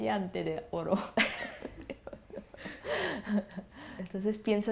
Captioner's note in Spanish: ARANXA y SACHIKO se ríen